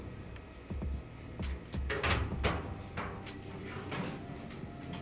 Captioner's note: drill whirring